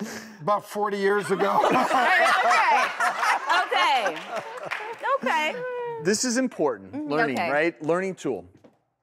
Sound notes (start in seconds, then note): 1.3 everyone laughs